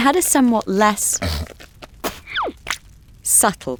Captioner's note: Esau hocks and spits